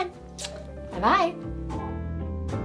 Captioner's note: kiss smacking; laid back music